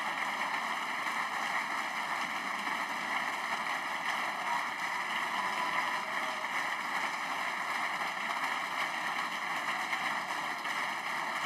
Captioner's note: applause